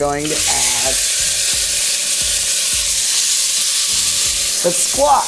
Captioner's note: pot sizzling